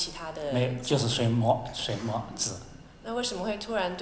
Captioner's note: Mandarin